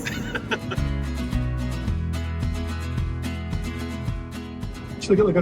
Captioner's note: laughing; upbeat music